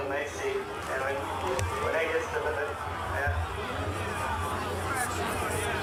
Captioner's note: crowd